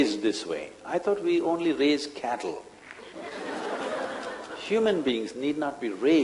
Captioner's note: laughter